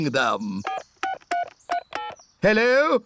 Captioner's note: dialing phone